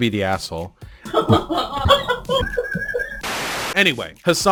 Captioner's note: highyena laughing